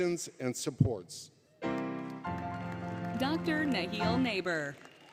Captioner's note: applause, Music; applause, Cheering